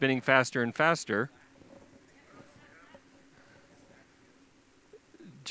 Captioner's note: pause